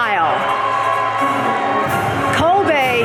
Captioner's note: audience cheering